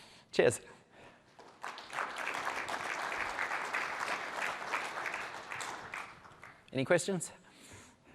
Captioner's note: applause